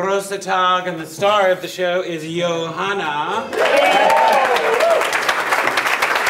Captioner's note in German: Jubel und Begrüßungsrufe